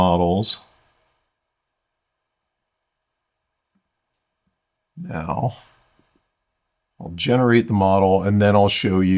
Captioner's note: silence